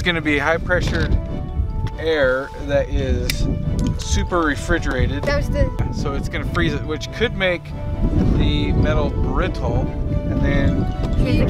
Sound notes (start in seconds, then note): 3.2 plastic snapping